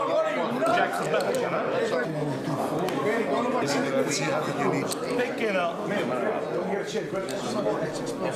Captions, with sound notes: What are you, nuts? (all chattering)